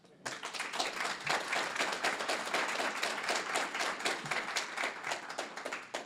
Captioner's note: applause